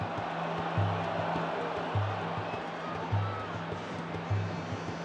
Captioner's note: crowd buzzing